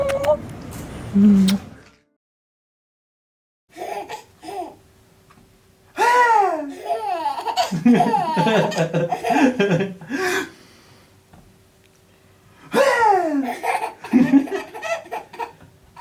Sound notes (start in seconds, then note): 6.4 baby laughing; 14.1 more laughter